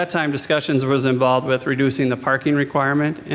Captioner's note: none